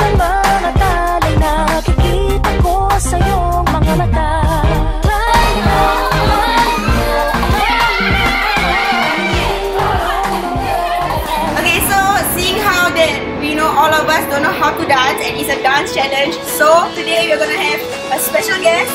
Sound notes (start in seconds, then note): 5.5 laughs; 7.3 screams in celebration